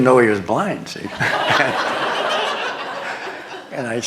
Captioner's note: laughter